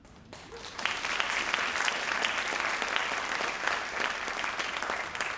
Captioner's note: audience applauding